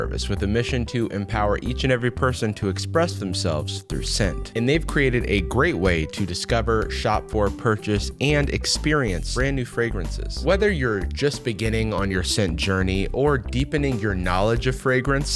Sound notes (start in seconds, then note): none